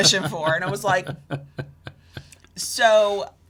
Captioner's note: laughs